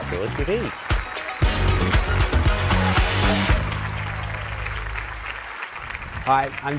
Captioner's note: applause